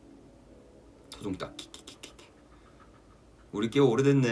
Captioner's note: laughs